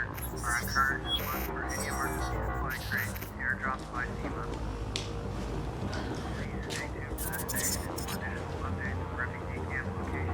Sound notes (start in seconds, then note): 0.2 radio broadcasting; 5.2 hypnotic electronic music continues; 6.4 radio broadcasting